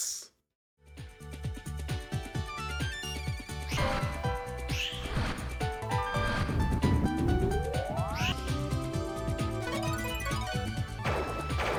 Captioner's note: gameplay audio